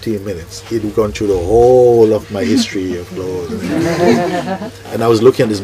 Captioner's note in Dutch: zacht gelach